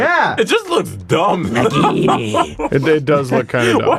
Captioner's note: laughing